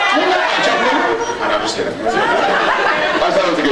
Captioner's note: laughs